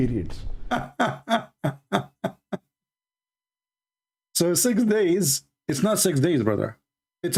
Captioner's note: Ketawa